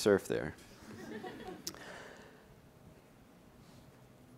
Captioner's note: laughing